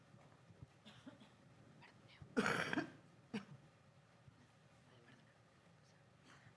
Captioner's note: several audience members cough